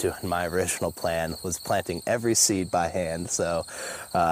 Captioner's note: laughs